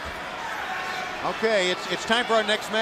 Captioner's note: crowd chatter